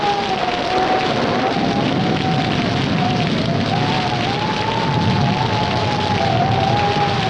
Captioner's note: thunder rumbling; wind howling